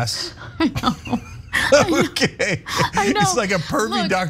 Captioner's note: laugh